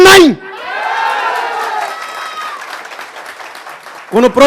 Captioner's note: clapping and expressing their acceptence